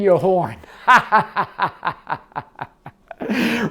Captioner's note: laughs